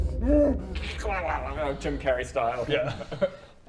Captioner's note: krrlelglgl